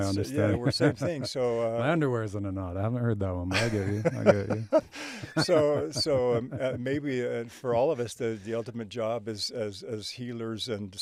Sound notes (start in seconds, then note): 3.5 both laugh